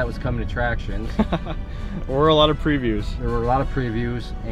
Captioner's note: laughs